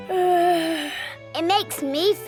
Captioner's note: yawns